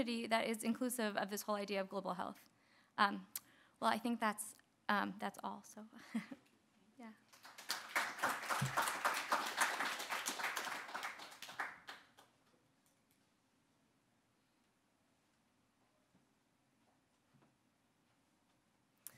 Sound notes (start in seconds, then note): 6.0 chuckles; 7.3 audience applauding